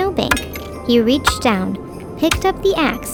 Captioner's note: ax thudding